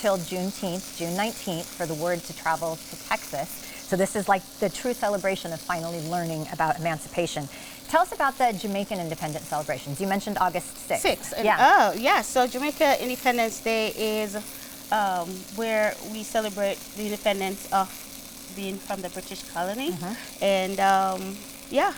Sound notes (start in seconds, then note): 7.3 chicken sizzles